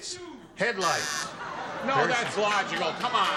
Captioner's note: buzzer